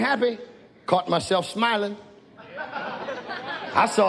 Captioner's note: audience laughs